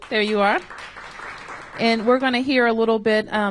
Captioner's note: applause